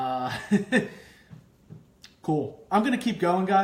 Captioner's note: laughing